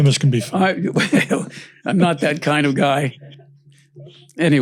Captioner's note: laughs